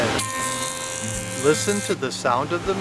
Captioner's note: machine whining; machine humming